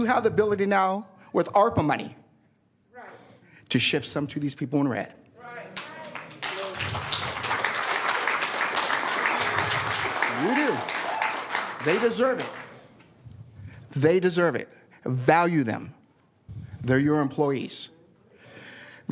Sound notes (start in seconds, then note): 13.2 applause